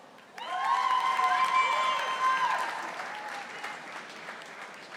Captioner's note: audience applauding